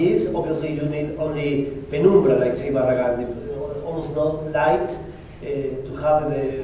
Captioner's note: spanish